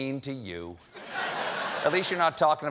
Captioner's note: booing